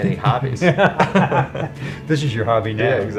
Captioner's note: laughter